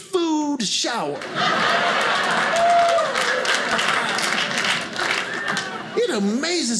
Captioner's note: audience applauding